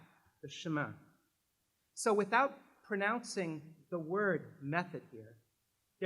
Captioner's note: french